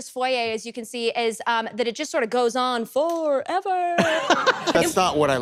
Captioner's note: laughs